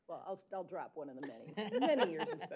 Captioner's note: chuckles